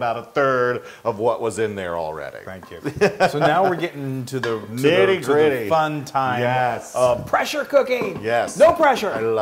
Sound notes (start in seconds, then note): 2.9 laugh